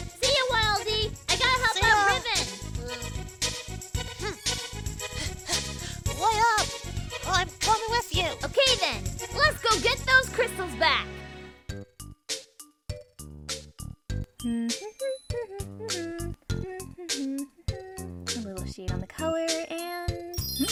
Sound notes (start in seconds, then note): 4.1 Worried Waddle Dee noise; 5.1 panting; 16.5 continues humming; 16.6 hums